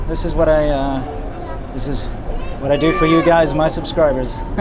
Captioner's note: laughs